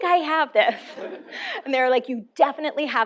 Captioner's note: laughter